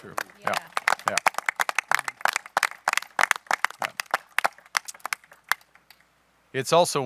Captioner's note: applause